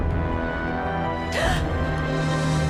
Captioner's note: gasps